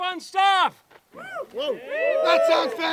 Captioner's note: cheering